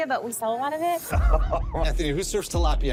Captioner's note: laughter